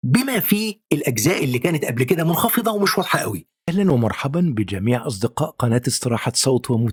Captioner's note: arabic VO